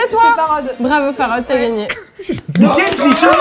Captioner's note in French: applaudissements